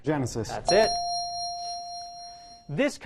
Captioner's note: ding